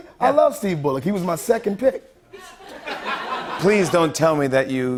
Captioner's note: light laughter